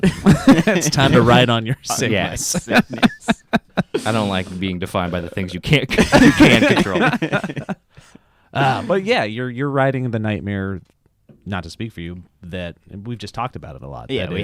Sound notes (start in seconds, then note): 0.0 laughs; 3.2 laughs; 5.9 laughs; 5.9 laugh